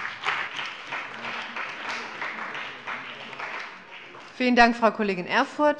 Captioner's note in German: Beifall bei dem BÜNDNIS 90/DIE GRÜNEN und der CDU